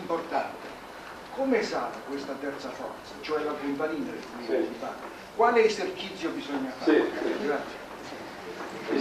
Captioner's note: italian